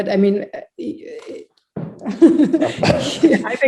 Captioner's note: chuckles